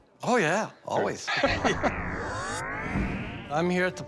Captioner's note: chuckles